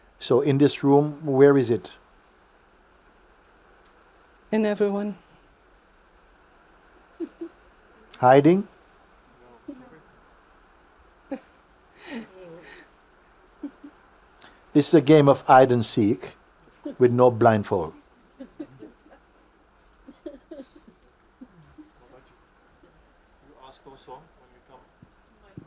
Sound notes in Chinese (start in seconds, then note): 9.8 团体的声音; 11.3 提问者5笑